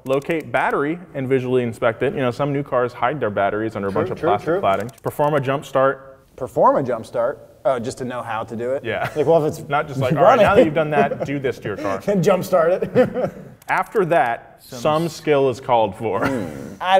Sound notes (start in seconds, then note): 9.9 laughs